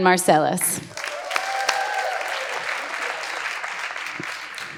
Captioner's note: audience applauds